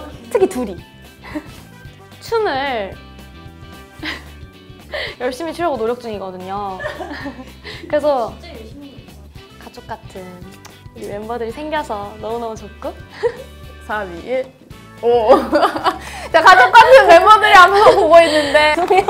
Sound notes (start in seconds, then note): 4.0 is holding back her laughter